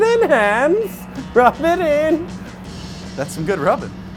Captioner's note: laughing